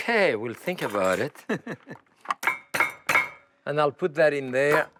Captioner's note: chuckling